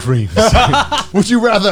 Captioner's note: Garnt laughs